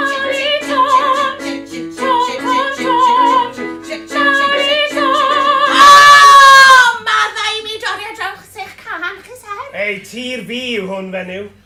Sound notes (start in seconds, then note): 5.7 scream